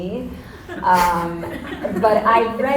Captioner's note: audience laughter